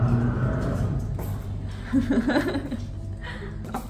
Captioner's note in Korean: 아저씨가 웃어주심